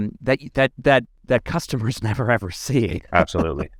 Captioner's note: laughs